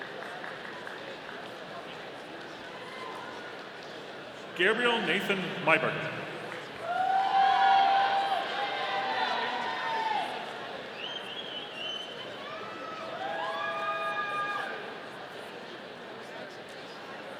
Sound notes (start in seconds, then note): 0.2 audience applauding; 6.8 audience cheering